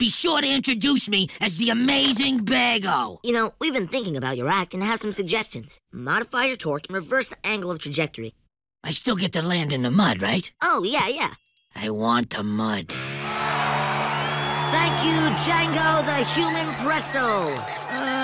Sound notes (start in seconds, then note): 12.9 cheering